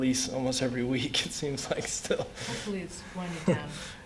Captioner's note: laughter